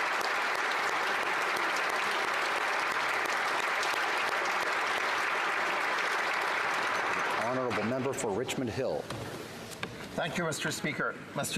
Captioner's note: applause